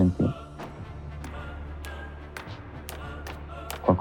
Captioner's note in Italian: Rumore di passi